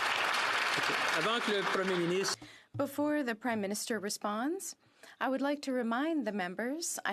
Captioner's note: some Applause